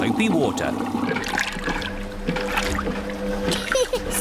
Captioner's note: machine rumbles; giggles